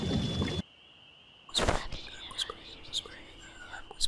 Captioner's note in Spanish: Whispering